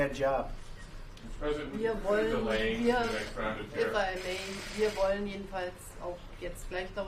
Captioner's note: speaks German